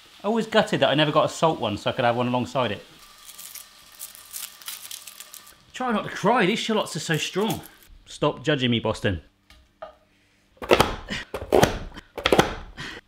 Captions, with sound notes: I was always gutted that I never got a salt one so I could have one alongside it. (shallot peels crackling) I'm trying not to cry, these shallots are so strong. Stop judging me, Boston. (lid closes)